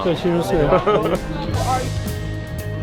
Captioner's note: laughs